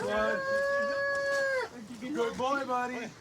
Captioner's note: wails